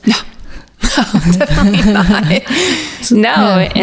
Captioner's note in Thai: หัวเราะ